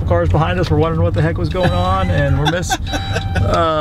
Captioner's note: laughs loudly